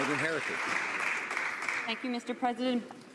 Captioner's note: some Applause